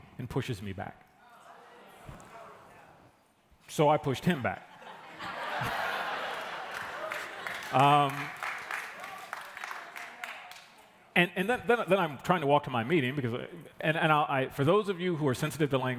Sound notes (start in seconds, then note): 6.1 applause; 6.7 laughter